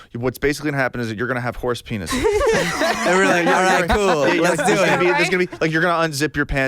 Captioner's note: laughs